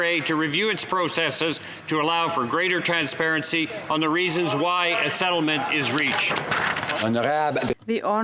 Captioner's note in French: voix de l'interprète